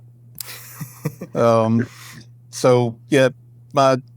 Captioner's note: chuckles